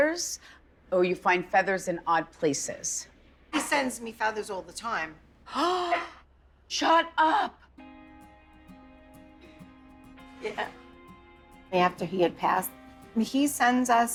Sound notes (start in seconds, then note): 5.7 gasps